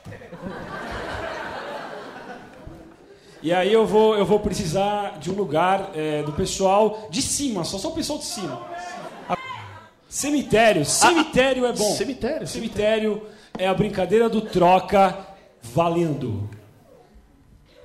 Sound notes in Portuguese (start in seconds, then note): 8.2 plateia dá sugestões